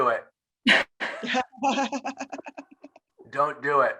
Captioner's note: all laughing